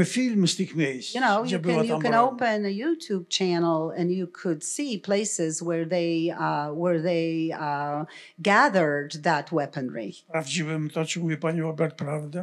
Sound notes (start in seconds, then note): 10.1 foreign language